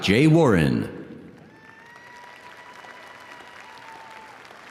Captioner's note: audience applauding